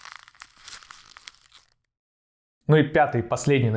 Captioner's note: sound of crumpled paper